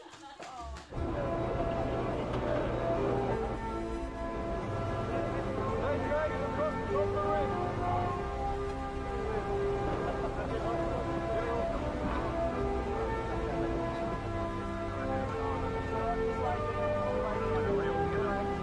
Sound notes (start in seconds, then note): 0.9 elated music; 5.3 rescuers chattering